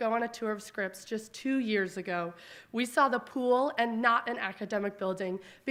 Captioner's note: none